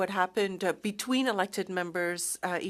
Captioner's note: speaking French